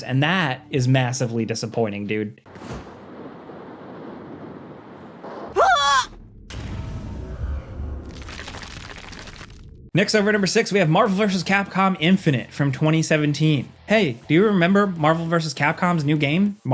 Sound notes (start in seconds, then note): 5.5 character screaming; 8.7 wall crumbling